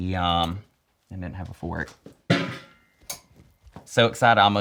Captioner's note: clang